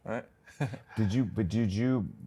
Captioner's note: chuckles